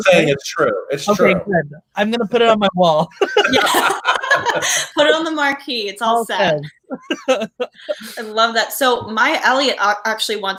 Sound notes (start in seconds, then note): 3.1 laughs; 6.5 laughs